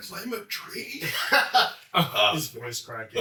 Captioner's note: chuckles